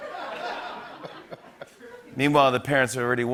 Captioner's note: laughter; normal voice